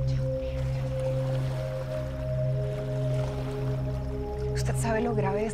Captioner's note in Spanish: Susurra